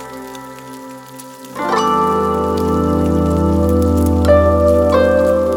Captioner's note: fry pan sizzle continues